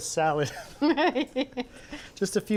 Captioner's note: laughs